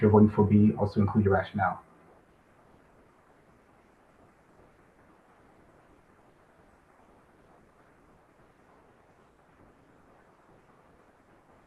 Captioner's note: pause